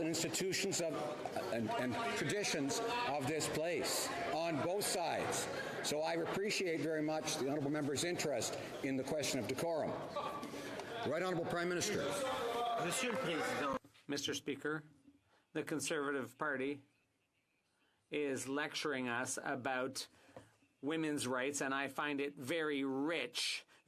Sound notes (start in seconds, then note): 16.3 speaking French